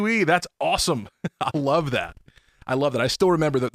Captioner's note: chuckling